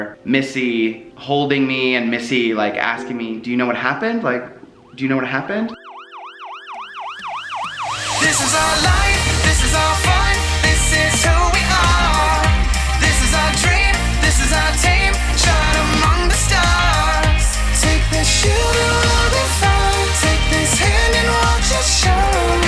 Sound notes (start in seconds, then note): 5.8 ambulance sirens wailing; 8.2 upbeat electronic music